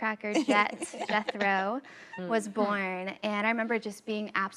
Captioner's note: women laughing